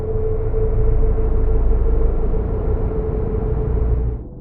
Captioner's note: engines rumbling